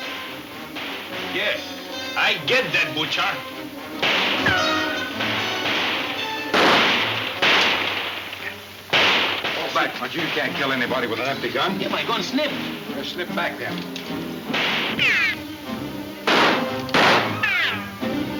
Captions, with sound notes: - Yes, I get that butcher. (guns firing) (dramatic music) - Fall back, Pancho. You can't kill anybody with an empty gun. - My gun slipped. - Well, slip back then. (guns firing) (dramatic music)